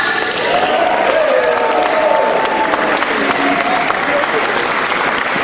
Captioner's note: cheering